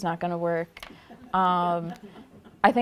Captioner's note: laughter